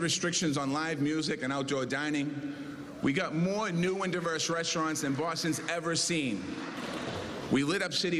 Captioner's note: cheers and applause